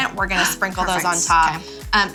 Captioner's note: gasps